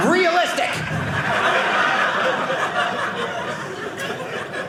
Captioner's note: audience laughing